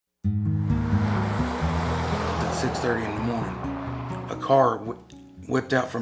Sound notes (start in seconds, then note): 0.2 somber guitar music; 0.5 cars whooshing